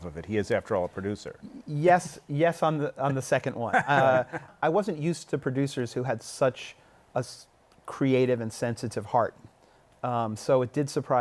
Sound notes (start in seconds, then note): 3.6 laughter